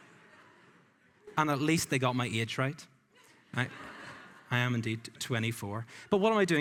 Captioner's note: laughing